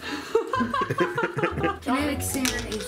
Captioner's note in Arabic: ضحك